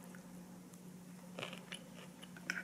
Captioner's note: Crunch